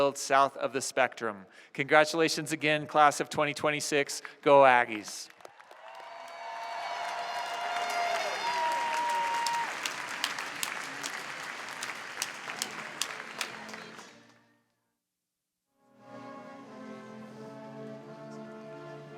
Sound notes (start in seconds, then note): 5.8 applause